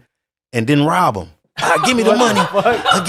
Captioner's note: people laughing